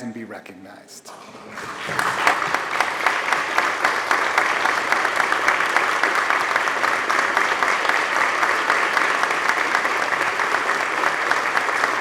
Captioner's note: applause